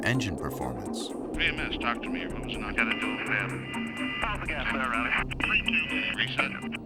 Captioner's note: men conversing over radios